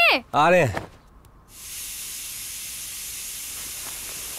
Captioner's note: Cooker whistle blows